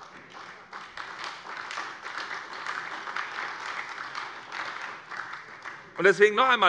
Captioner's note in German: Beifall bei der SPD